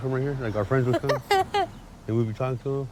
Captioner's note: laughs